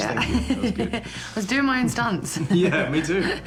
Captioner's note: laughing